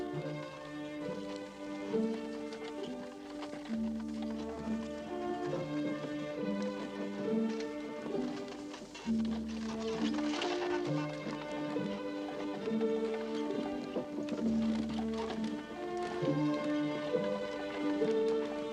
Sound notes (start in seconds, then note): 8.4 crack